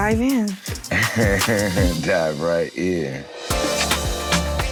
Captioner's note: laughing; rhythmic music